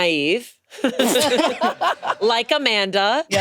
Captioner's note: laughing